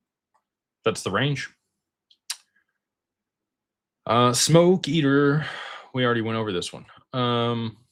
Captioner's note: sighs